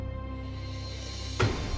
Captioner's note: thud